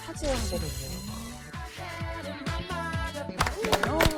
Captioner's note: transparent crystal shimmer